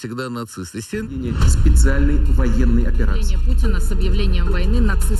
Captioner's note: foreign